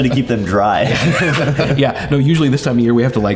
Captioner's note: laughs